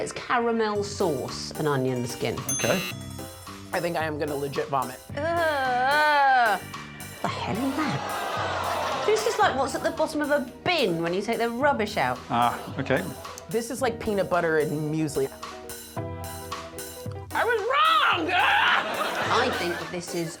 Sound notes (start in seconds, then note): 2.4 dinging, buzzing